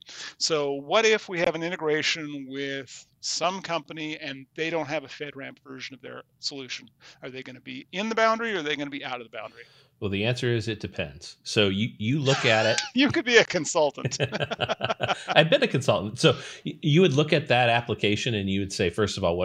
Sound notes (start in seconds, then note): 12.2 laughs